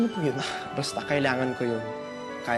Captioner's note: scoffs